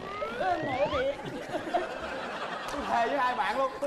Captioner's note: laughing